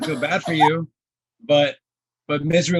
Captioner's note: laughing